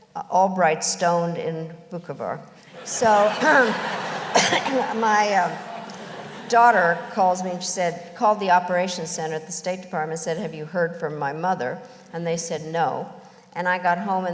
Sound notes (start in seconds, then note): 2.7 laughter